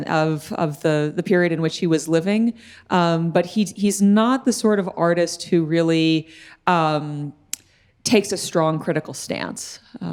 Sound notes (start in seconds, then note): none